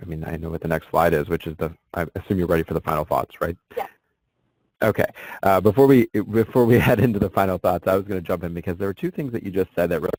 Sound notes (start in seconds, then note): 0.0 voiceover; 4.1 voiceover; 6.6 laughs